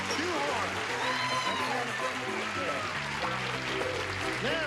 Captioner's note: cheers and applause